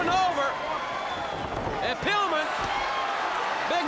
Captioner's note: crowd cheering